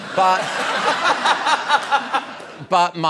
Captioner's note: laughter